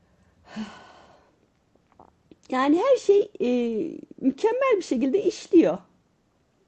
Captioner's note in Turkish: iç çeker